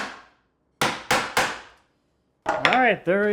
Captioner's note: woods smacking